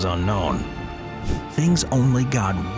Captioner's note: transition whooshes